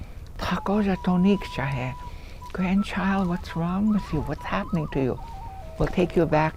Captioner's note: speaks Dakotah